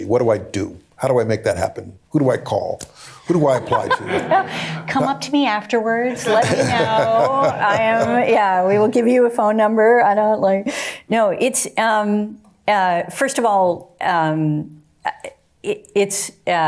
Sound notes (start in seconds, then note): 3.3 laughter